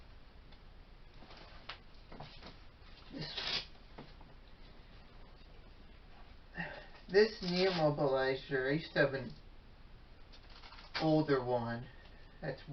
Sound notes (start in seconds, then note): 3.0 ripping of Velcro